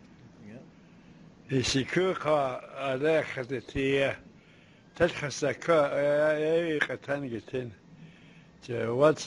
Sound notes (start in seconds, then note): 1.7 non-english speech